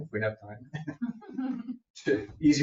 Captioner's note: people chuckle